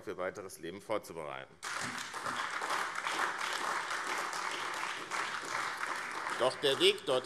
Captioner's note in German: Beifall AfD